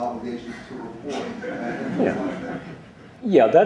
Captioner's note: laughter